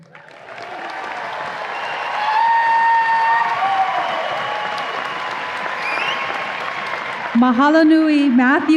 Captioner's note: audience applause and cheers